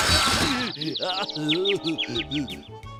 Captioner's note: crashing; groaning; birds tweeting